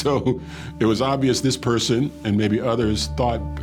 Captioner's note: chuckling